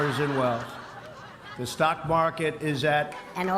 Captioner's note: laughter; high-pitched voice